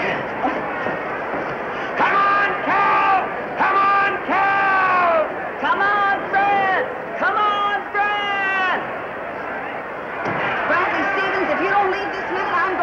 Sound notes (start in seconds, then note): 3.6 Brad cheering